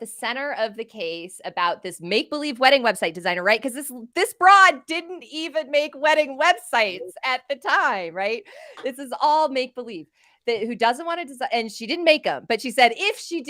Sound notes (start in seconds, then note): none